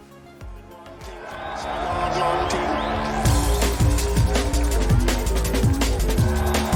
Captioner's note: upbeat music; crowd cheering